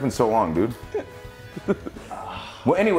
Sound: laugh

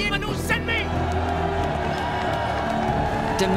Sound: cheering

